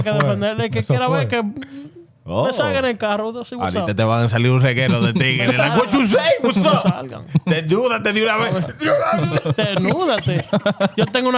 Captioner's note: speaking In Foreign Language